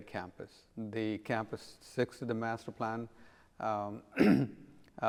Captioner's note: clears throat